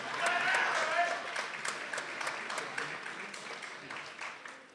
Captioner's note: people applauding